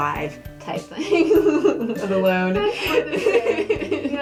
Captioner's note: laughing